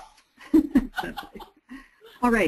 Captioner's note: all chuckle